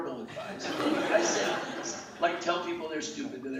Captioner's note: laughing